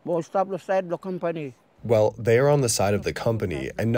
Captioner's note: through translator